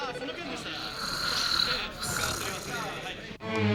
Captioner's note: Yamaoka snoring